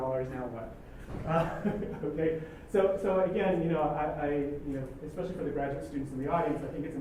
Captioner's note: laugh